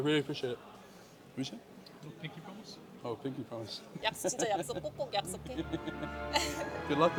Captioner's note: laughs